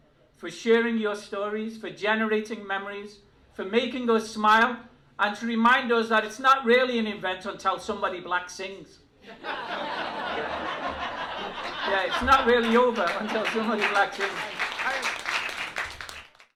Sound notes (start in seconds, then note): 9.2 laughter; 14.5 applause